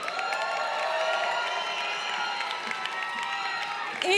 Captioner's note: crowd cheering